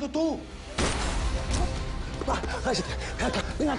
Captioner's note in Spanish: Disparos